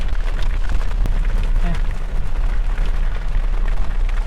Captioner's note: rain splattering